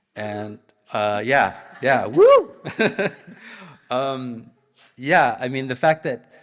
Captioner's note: laughs